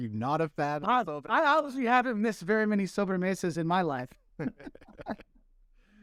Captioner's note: laughter